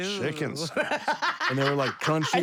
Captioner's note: laugh